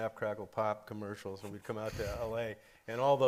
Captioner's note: lightly chuckles